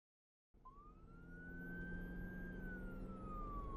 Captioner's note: siren blares